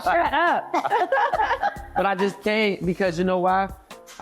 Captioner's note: laughing